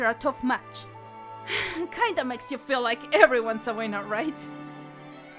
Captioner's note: sigh